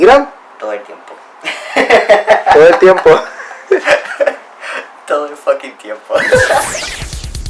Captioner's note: laughs